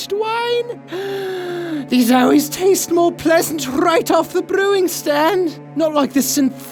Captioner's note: gasp